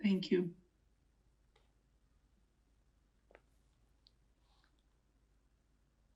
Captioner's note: pauses 17 seconds